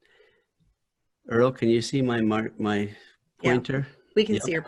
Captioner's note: speaking normal